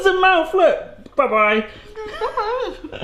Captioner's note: in wacky voice; laughing